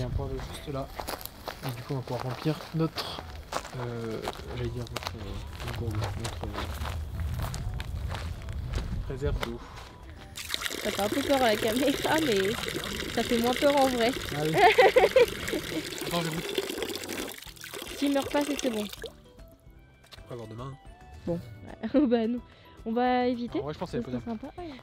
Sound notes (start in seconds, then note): 10.3 sound of running water; 14.5 laughs; 21.7 laughs